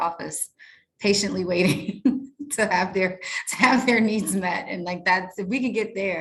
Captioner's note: chuckles